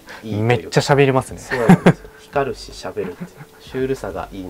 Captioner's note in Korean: 웃음